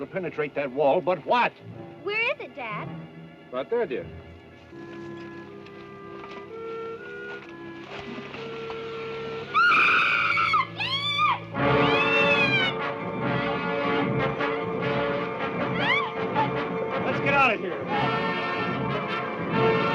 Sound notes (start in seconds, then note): 9.5 screaming; 15.0 ominous orchestral music